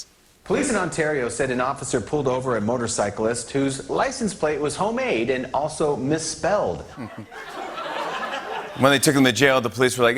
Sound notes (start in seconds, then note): 6.9 laughter